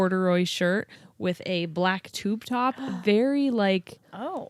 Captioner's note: gasps